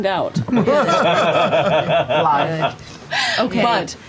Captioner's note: laughter